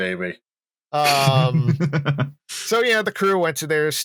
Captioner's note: laughs; laughter